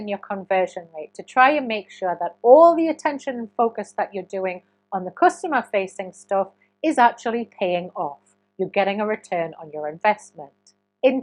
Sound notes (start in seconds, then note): none